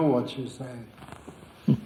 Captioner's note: laughter